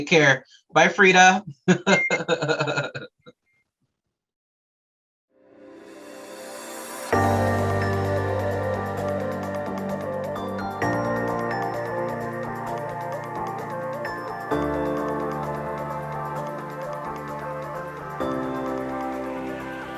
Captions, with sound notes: - Take care. Bye, Freda. (chuckles) (enlightening music)